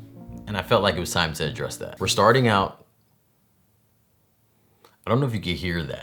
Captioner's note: awkward pause